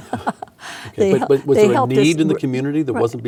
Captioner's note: laughing